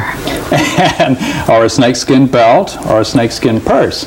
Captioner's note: laughs